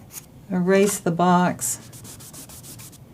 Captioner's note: drawing sounds